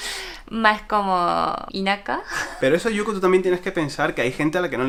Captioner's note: in japanese